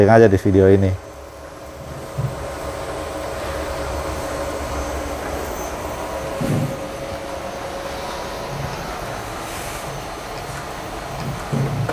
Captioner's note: printer machine noise